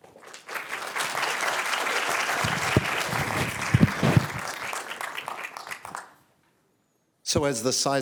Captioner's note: applause